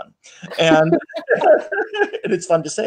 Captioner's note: laughing